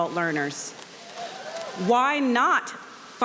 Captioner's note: audience cheering